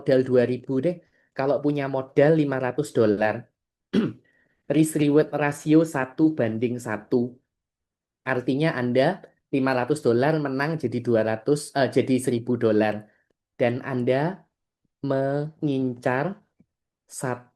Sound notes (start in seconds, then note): 3.9 berdehem